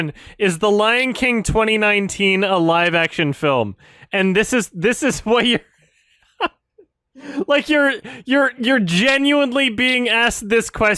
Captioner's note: laughs